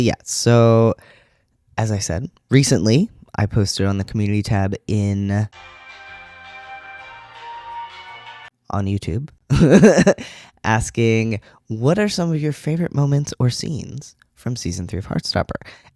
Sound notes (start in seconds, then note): 5.5 elevator music; 9.5 laughter